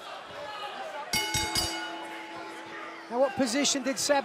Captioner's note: bell ringing